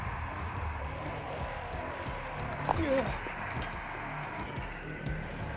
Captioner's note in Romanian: Aplauze